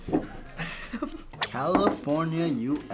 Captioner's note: laughs